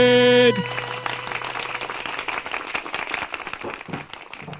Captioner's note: audience applauds